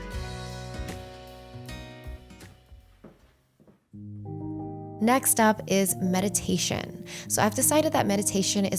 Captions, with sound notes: (fabric swishing) (footsteps thump) Next up is meditation. So I've decided that meditation